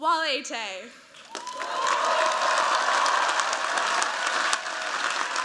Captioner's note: cheers, applause